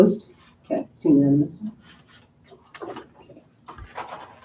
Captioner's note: chairperson mumbles